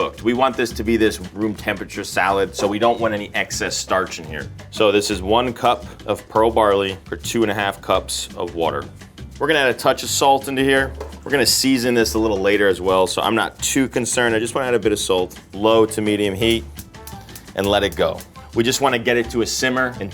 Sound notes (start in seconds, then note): 16.4 igniter clicks